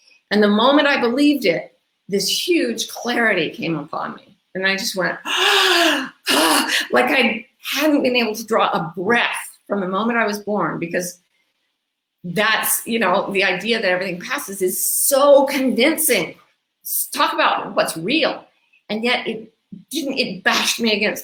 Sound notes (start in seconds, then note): 5.2 gasping